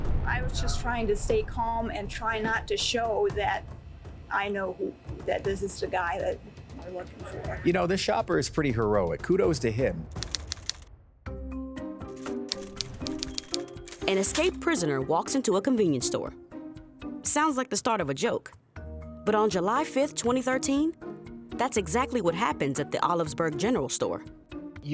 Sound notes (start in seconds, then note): 0.0 dramatic music; 10.3 typewriter typing; 11.4 lighthearted music; 12.1 typewriter dings